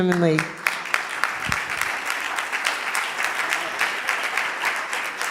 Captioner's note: audience applauding